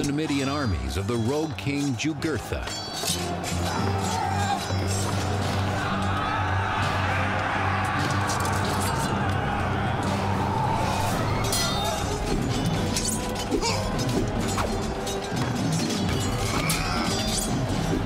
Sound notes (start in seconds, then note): 5.4 battle cry; 11.4 swords clanging